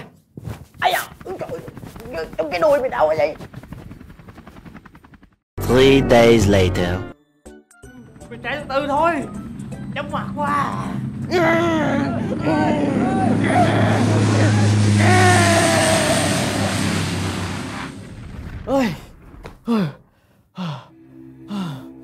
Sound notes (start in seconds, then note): 14.7 plane landing; 19.6 exhaling